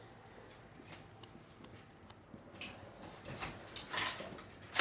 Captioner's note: keys clinking